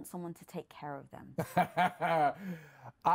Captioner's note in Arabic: يضحك